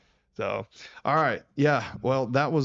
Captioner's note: laughs